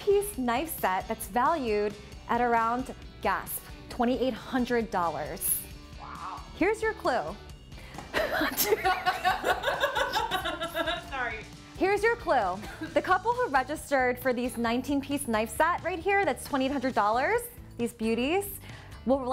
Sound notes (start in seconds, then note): 8.1 laughing